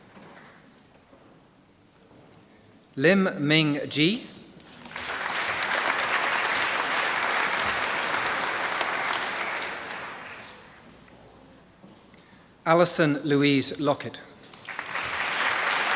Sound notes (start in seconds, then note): 4.8 applause; 14.5 applause